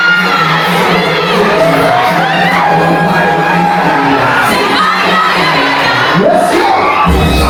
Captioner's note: crowd Cheering; upbeat Music